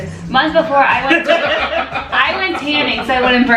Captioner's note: laughter